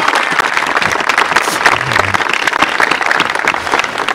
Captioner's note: applause